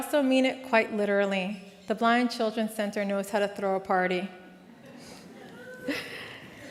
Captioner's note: laughs